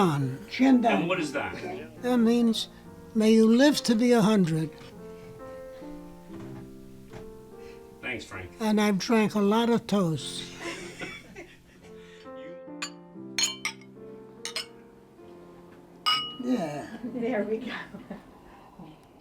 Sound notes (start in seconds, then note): 12.4 family chuckles; 16.0 glasses clinking